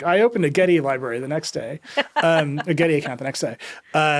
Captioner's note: laughing